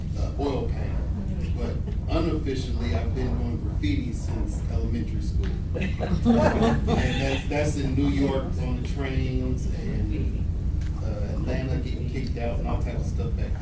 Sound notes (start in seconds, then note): 5.8 audience laughs